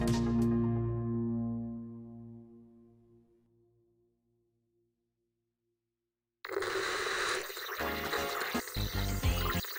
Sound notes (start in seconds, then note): 6.4 TV static noise